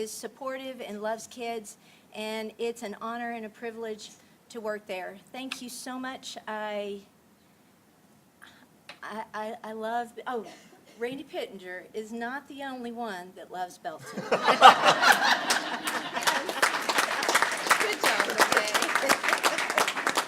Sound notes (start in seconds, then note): 15.7 laughter; 16.6 applause